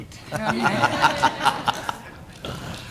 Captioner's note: laughter